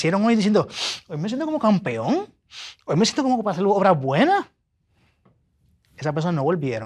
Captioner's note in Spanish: resoplido